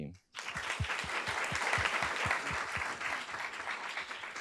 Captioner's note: audience claps